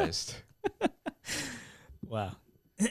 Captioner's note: laughing